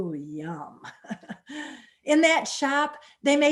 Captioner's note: chuckles